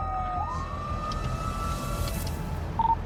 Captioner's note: siren wailing